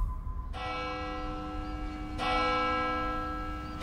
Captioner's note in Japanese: 音楽と教会の鐘の音